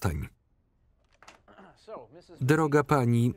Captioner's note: Tommy clears his throat